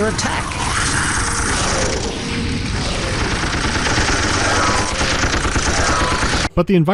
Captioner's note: machine-gun fire